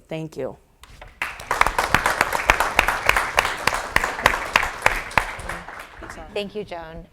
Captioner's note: applause